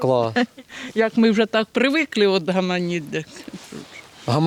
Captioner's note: chatting